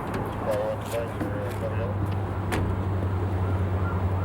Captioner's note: faintly speaking